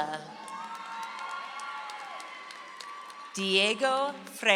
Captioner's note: audience applauds